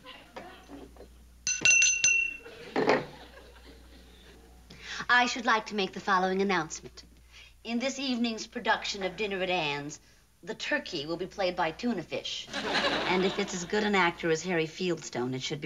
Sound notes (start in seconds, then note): 1.4 glasses clinking